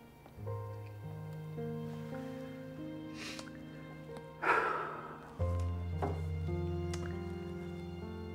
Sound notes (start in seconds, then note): 4.4 Josiah sighs